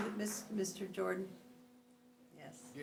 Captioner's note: applause